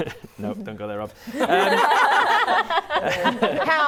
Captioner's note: laughs; laughing